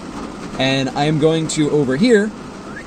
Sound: whistle

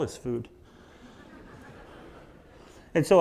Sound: audience laughs

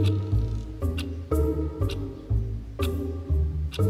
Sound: clock ticking

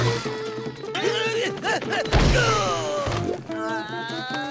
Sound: shouting

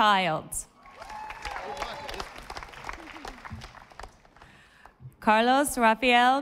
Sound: audience applauding

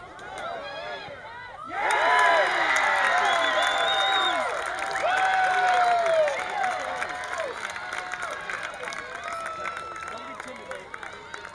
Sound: crowd Cheering

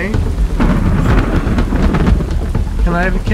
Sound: thunder and lightning

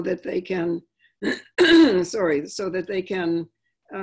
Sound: clearing throat

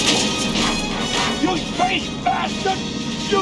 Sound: shotgun blast

